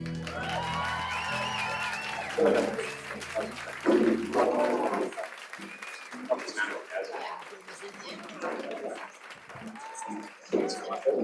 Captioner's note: applause